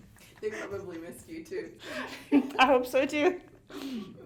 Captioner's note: laughs; laughs